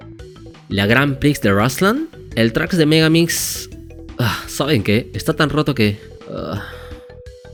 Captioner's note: sigh